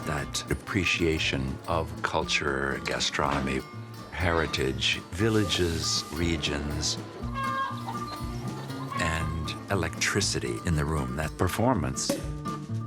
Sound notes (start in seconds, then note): 7.4 chickens clucking; 7.4 festive music; 12.6 festive music continues